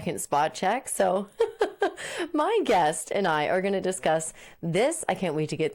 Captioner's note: laughing